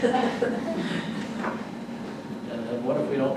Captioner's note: audience laughter